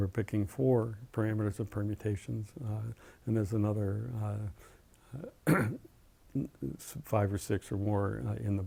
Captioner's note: cough